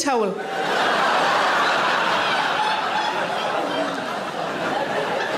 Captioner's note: audience laughing